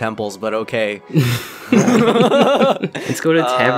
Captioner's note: laughter